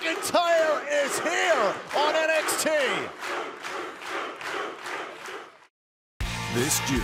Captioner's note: crowd cheering